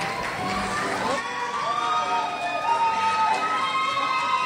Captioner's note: crowd cheers